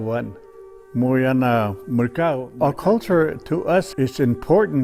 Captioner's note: man speaking native language